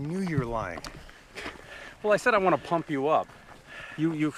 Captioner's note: laughs